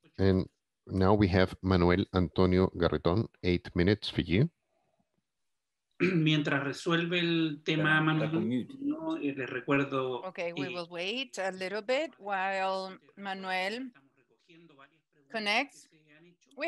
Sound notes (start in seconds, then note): 6.2 speaks foreign language